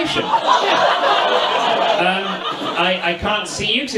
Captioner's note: audience laughs